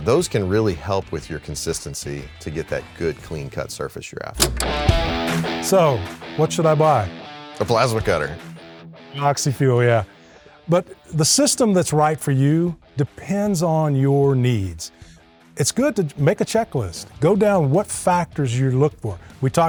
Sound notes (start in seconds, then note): 4.4 film clicking; 4.5 upbeat rock music